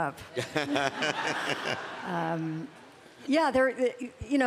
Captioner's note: laughter